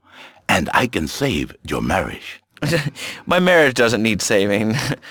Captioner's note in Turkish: gülüyor